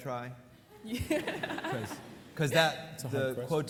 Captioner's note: laughs